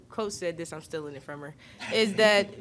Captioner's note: Aliyah laughs